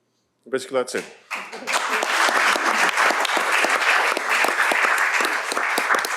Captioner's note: applause